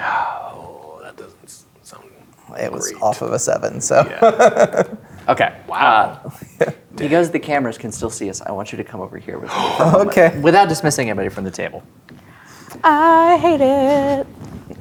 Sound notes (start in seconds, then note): 3.9 laughs; 6.3 chuckles; 9.5 gasps; 12.7 singing